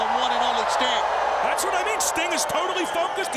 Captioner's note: audience cheering